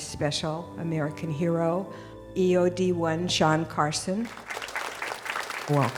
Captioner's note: applause